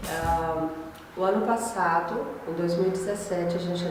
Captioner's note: speaking spanish